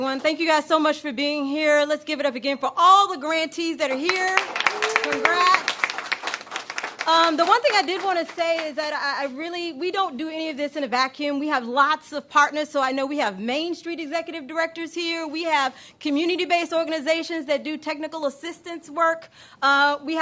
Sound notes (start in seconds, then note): 4.0 applause